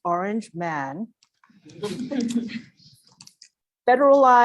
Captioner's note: laugh